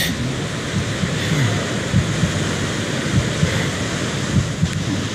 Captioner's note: heart beating